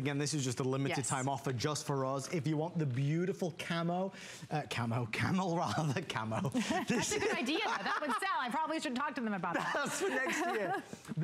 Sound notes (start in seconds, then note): 5.6 laughter